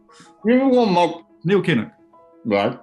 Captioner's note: with mouth full